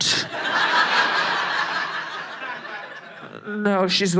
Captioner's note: audience laughing